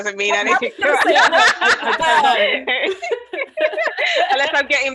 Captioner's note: laughs